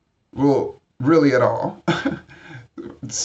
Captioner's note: chuckles